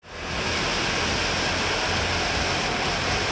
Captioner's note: smoke hisses